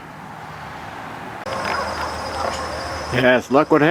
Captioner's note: van slowing down